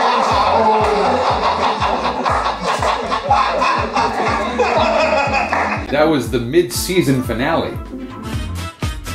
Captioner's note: laughter